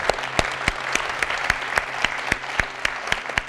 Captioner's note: audience applauding